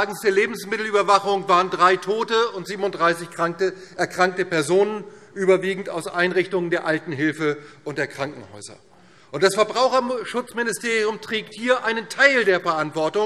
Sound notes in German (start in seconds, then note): none